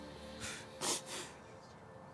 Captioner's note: sobbing; sniffles